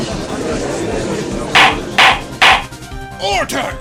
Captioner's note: gallery chattering; gavel slams!